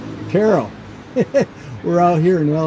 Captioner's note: chuckles